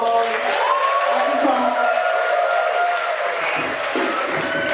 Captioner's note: audience cheering